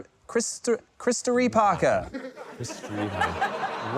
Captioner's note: laughter